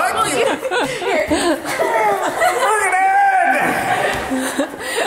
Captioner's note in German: lacht